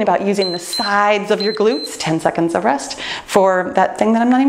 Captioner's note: timer beeps